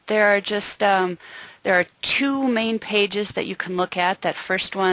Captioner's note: voiceover